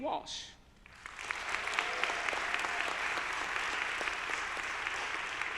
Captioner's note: audience applauding